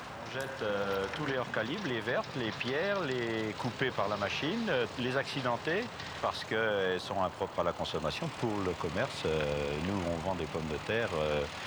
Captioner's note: speaking french